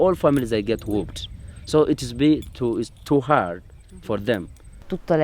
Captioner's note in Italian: Inglese